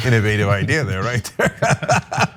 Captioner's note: laugh